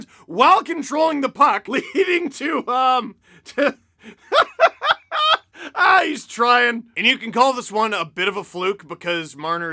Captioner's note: laughter